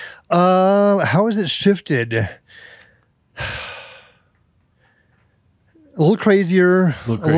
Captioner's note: he sighs